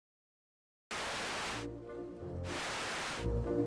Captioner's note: static sound